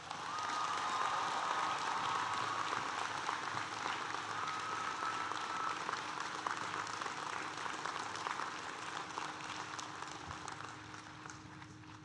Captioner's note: applause